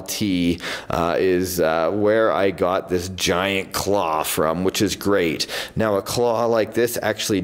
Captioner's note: none